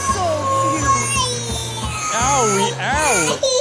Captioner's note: crying